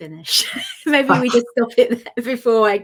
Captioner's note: laughs